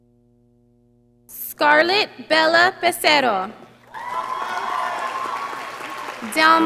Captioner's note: audience applauding